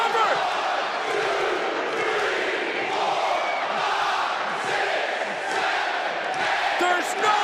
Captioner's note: crowd counting